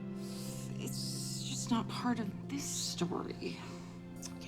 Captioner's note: sighs